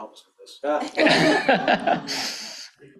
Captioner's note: laughter